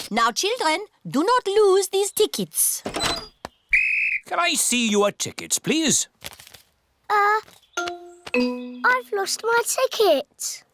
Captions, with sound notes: Now, children, do not lose these tickets. -(BLOWS WHISTLE) -Can I see your tickets, please? Uh... I've lost my ticket.